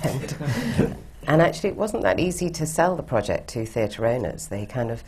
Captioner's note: laughs